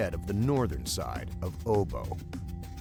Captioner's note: voiceover